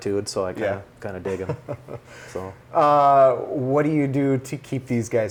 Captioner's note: laughs